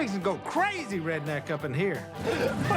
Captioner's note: laughter